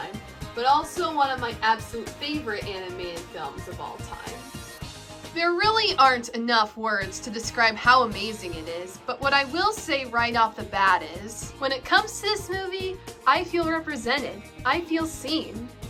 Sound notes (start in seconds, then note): none